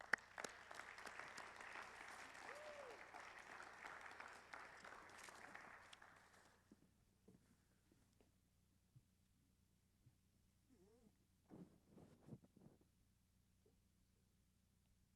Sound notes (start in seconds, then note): 8.6 applause